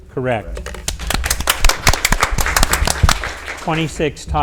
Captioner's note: audience applauds